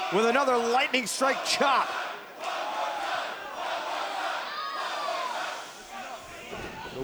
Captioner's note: fans chanting